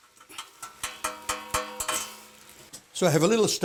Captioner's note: pots clanking